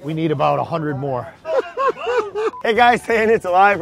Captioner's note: laughs